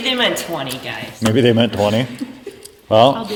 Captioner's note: laughs